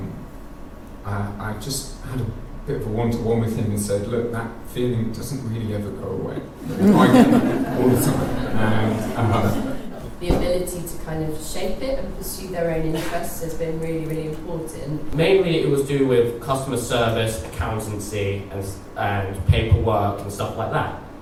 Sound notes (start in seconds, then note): 6.6 laughter